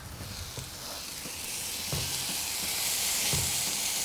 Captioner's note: sizzling